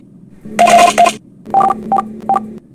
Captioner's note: voting sounds